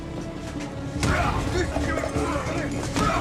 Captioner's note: man shouting